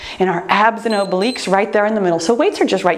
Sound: timer beeps

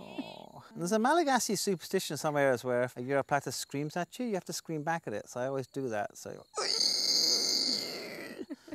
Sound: attempts at imitating gecko's screech

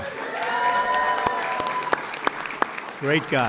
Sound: applause

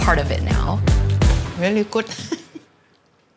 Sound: laughs

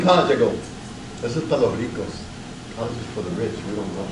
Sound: speaks Spanish

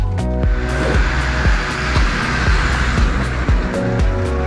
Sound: Landrover rumbling

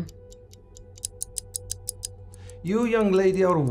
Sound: clock ticking faster

